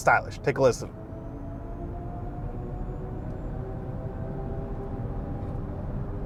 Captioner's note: car engine softly revving